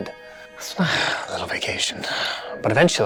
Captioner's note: sighing